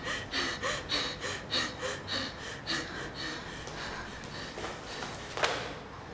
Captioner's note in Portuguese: valentina respirando tensa